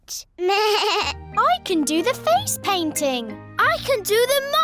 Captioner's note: bleats